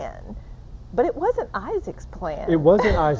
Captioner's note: chuckling